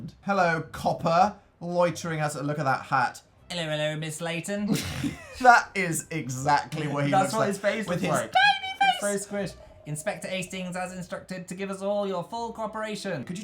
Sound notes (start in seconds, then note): 4.7 laughs